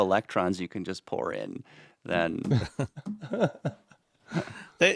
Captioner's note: laughing